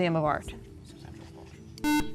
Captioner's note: beeping